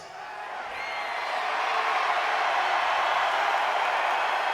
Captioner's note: audience cheers